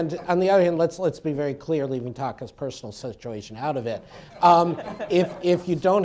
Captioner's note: laughter; laughter